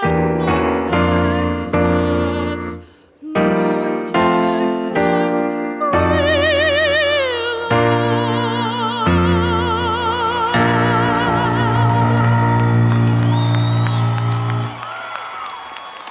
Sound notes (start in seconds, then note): 10.6 audience applauding